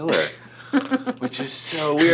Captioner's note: chuckling